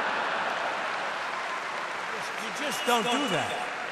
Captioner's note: laughter and applause